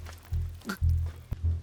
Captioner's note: gasping